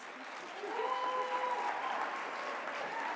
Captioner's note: applause